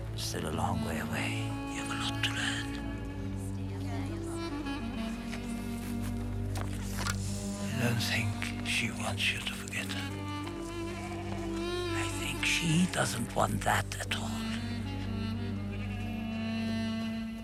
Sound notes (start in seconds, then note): 2.4 whispers